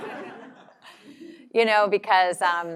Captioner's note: laugh